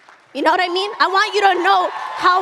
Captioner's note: audience cheers and applauds